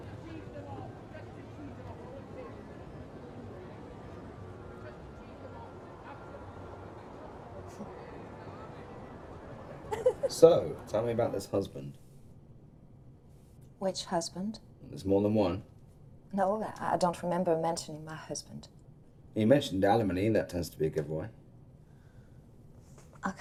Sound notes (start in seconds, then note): 9.8 laughing